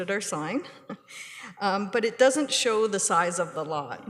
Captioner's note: chuckles